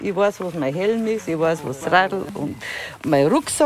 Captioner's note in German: none